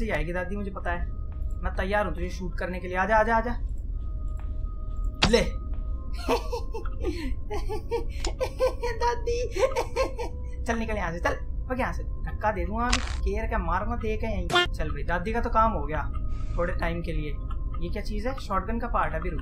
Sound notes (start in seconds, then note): 7.9 laughter; 14.5 quack